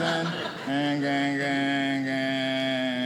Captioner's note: audience laughing